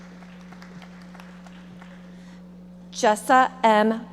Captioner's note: audience members applauding